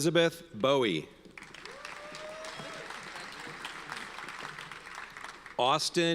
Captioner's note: audience cheers and applauds